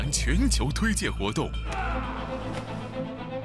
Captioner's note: yells